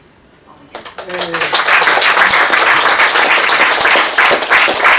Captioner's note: applause